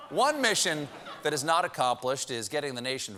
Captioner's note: cheering